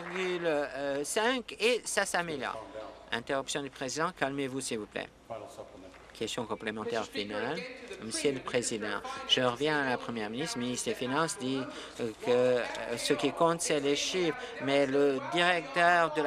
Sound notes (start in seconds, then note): 0.0 applause